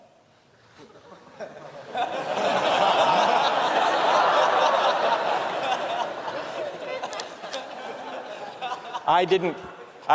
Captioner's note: laughter